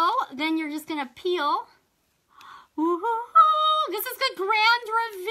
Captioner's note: gasps